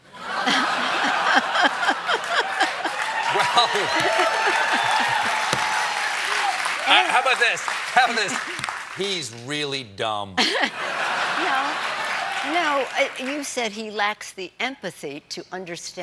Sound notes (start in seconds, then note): 7.6 cheers and applause; 10.4 laughter